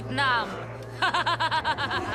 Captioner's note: laughs evilly